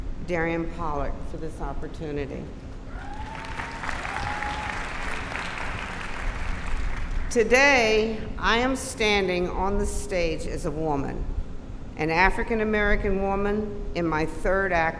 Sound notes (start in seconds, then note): 7.4 applause